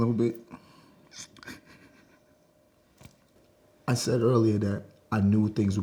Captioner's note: cries softly